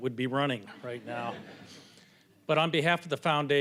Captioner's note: audience chuckling